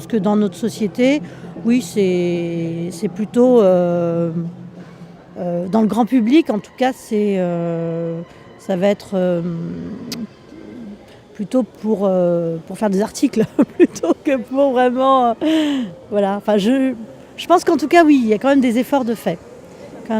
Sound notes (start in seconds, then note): 13.4 laughs